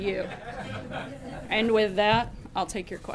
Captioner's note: laughter